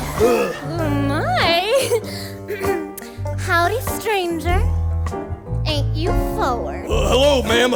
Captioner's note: clears throat